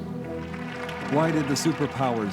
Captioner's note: crowd applauding